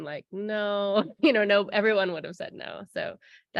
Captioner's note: laughter